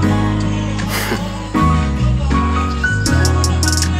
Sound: snickers

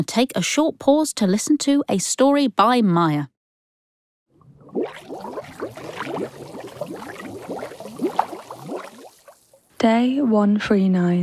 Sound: sound of bubbles in water

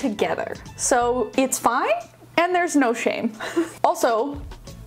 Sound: laughing

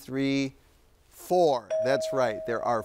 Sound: bell dinging

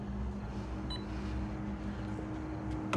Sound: stop rec beep

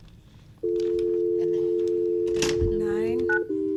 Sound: dial tone

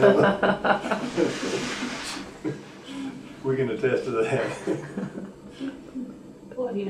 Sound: laughter; laughs

